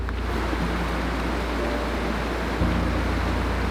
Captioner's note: water rushing